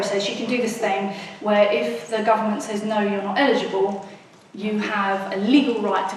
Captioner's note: none